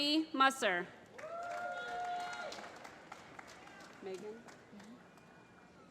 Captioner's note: applause